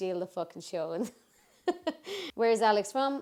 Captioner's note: laughs